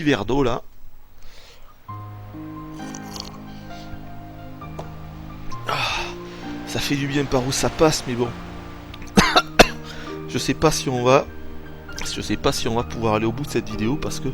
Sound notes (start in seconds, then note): 9.2 coughs